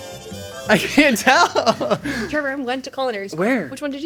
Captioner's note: laughing